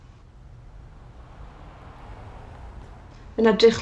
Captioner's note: traffic passing